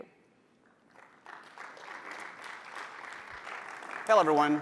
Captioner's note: applause